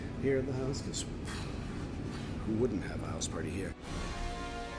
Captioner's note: exhales